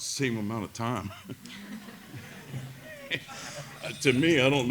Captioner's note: laughter